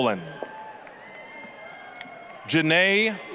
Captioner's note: applause, cheering